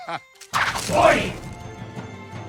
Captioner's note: whistles